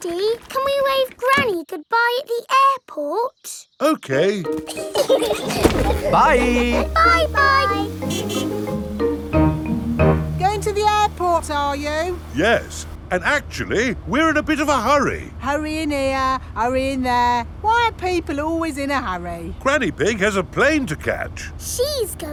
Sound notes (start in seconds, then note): 4.5 laughing; 8.2 horn honking